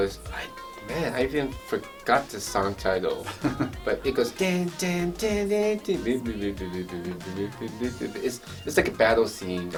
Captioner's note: hums melody